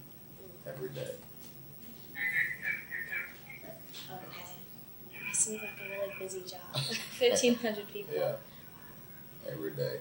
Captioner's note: both laugh